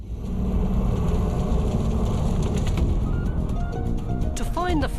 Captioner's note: flames crackling; intense music